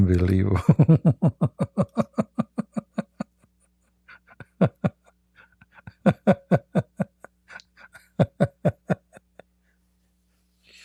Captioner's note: Ketawa